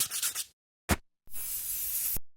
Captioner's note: sandpaper scraping; aerosol can spraying